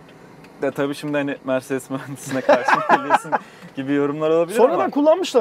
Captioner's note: laughings